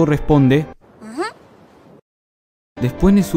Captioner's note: mmm